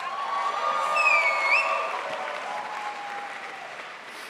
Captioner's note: crowd applauds